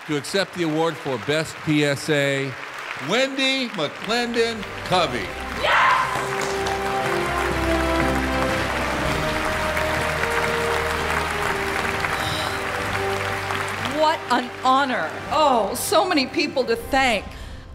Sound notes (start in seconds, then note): 6.6 audience applauding; 6.6 gentle music